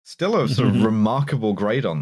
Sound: chuckles

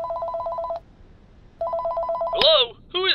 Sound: phone rings

